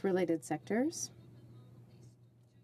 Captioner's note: speaking in french